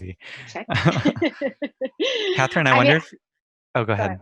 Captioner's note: laughing